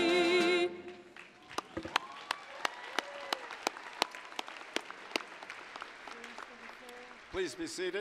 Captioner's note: applause